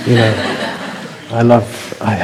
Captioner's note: laughter